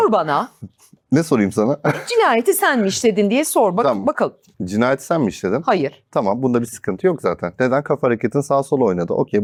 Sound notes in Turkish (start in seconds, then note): 2.4 boğazını temizler